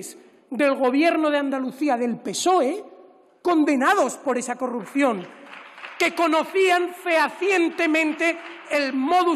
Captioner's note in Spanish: Aplausos